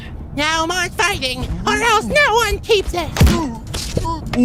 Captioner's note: slam!